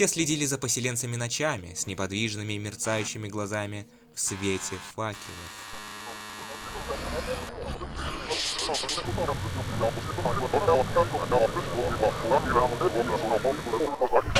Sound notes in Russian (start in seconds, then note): 5.6 сбой звука; 8.4 кошмарные помехи